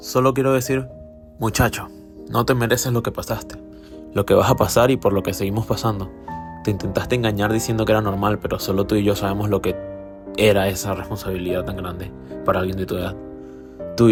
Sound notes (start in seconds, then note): 10.0 stutters